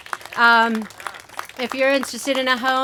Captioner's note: applause